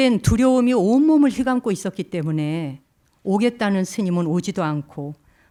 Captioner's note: speaking in Korean